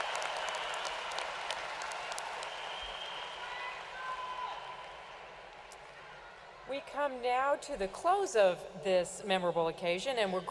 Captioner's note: cheers and applause